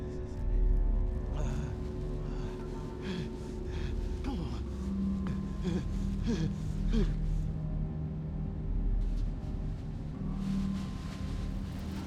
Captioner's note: gasping